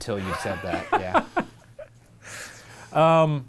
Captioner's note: laughs